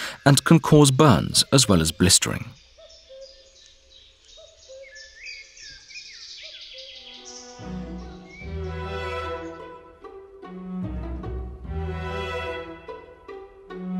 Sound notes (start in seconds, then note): 2.6 sounds of nature; 7.1 lively music